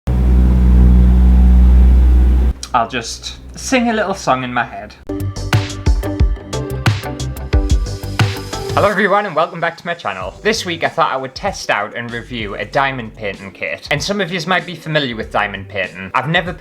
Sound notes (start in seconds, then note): 0.0 rumbling Noises; 5.0 intro Music